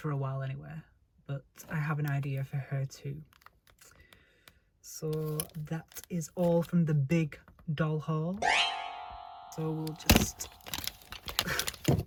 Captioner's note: jump scare